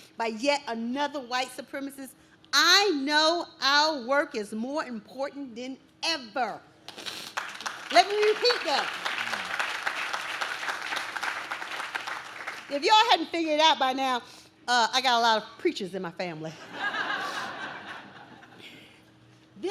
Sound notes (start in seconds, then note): 6.9 audience claps; 16.6 audience laughs